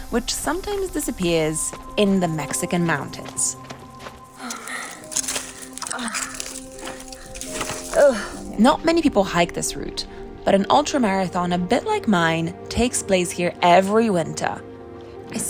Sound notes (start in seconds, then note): 4.3 brush rattling; 4.3 labored breathing